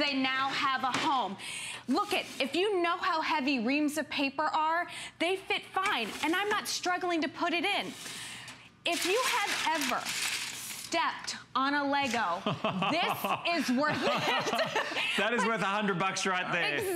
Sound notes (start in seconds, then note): 15.0 laughter